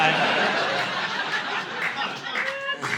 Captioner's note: audience laughing